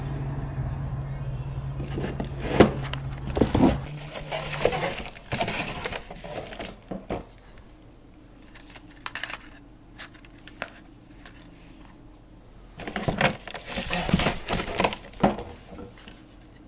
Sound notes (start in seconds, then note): 1.8 package and tapes rustling